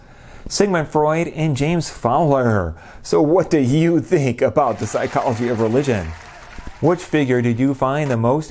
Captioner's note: applause